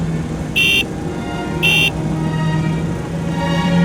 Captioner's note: horn honking